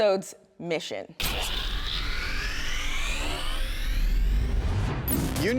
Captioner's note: laser beam noise